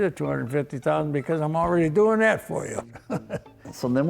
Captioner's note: chuckles